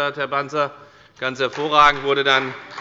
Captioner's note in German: Beifall bei Abgeordneten der CDU